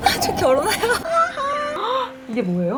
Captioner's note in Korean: 꺄륵